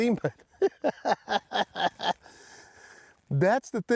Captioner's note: chuckles